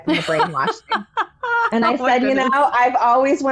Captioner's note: laughing